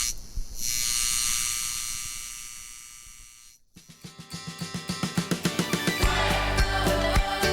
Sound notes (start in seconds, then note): 0.0 electric buzz; 4.3 bright music